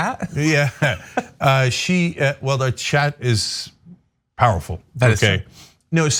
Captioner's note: laugh